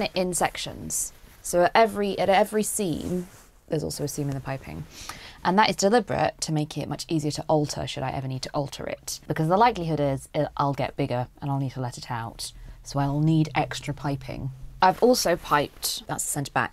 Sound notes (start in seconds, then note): none